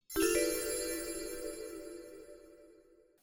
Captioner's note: chimes